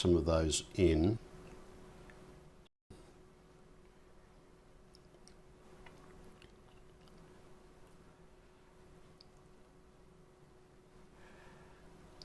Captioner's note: silence